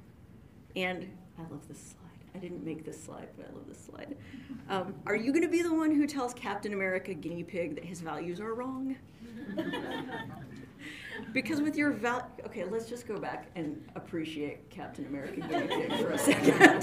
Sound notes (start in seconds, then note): 9.3 audience laughs